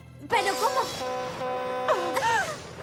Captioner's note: honking